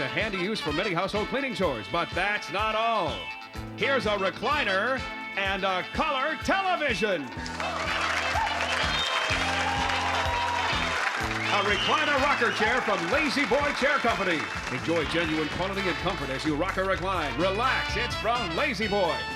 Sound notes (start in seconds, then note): 7.7 cheering